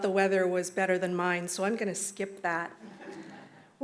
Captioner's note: laughter